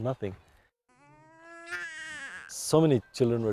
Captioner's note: baby cries